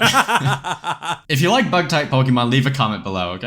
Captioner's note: both laugh